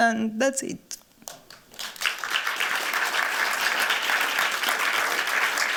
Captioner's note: applause